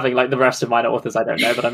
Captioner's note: laughs